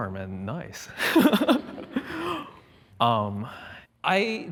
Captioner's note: laughs